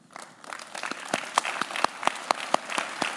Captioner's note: claps